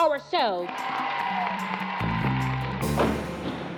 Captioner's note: cheers and applause